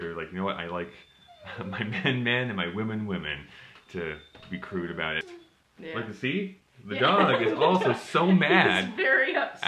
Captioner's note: dog whimpering behind the door